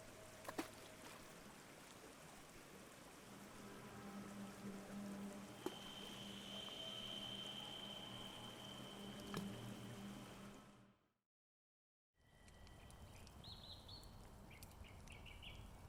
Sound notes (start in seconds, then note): 3.0 ominous music; 12.9 birds chirping; 13.8 fire crackling